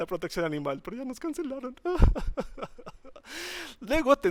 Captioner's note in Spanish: llora